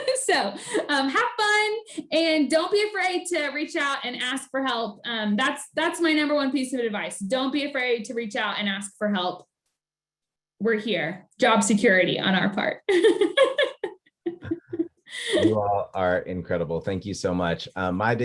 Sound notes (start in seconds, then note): 12.9 laughing